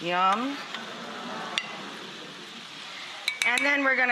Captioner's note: audience murmurs